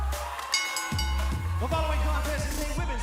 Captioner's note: bell ringing